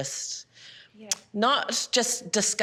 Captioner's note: tuts